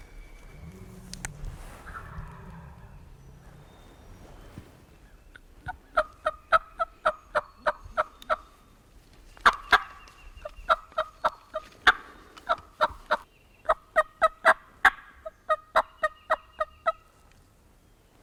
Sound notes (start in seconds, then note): 2.3 turkeys gobbling; 5.6 turkey call